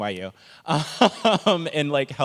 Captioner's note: laughs